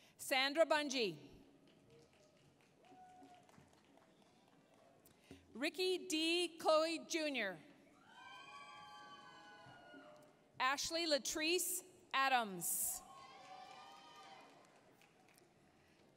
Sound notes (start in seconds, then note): 1.5 applause; 8.0 applause, cheering; 13.0 applause, cheering